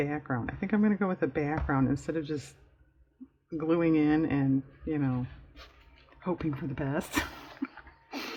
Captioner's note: laughs